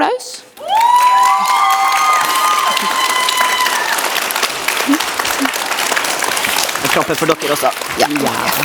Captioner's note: audience claps and cheers